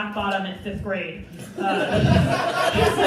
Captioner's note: crowd Laughing